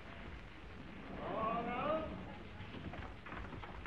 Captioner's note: man shouting